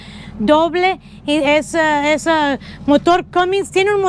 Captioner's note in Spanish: Español